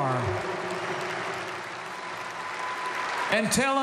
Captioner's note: applause